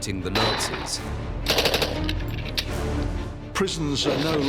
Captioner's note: gun firing